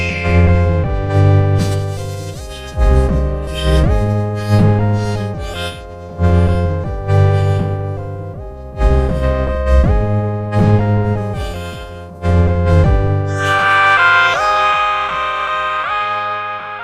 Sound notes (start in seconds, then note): 0.0 screeching; 3.3 grunting; 14.2 yelling